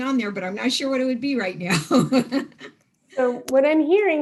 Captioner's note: laughs